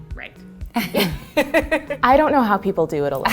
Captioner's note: both laugh